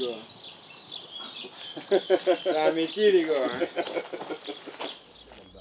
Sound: laughs

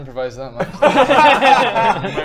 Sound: laughs

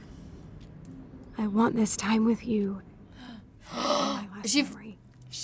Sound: gasp

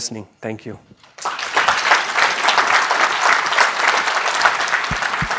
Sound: applause

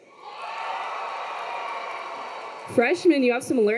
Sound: students cheering

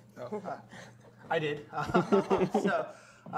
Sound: laughter

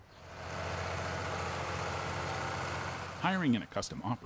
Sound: tractor moving

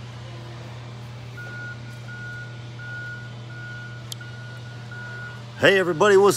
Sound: reversing alarm beeping

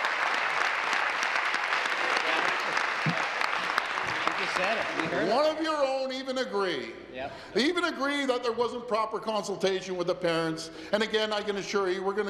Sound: applause

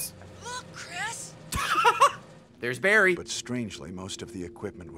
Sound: laughs

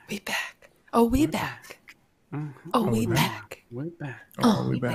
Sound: in unison: we back

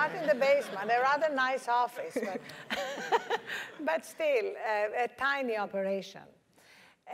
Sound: laugh

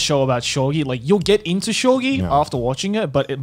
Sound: in foreign language

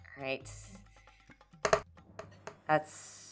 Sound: dice thudding

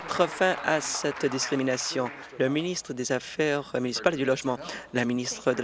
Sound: applause

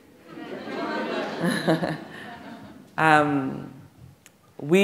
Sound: audience laughing

